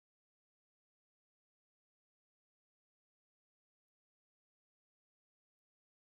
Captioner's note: none